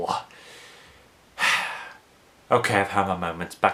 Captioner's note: sighs